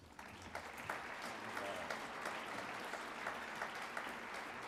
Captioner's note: audience applauds